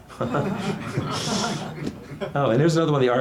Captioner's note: everyone laughs heartily; laughs